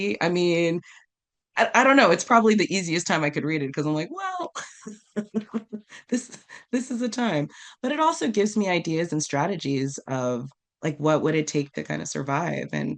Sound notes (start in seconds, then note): 4.8 while laughing